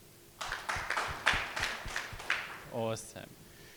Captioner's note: audience clapping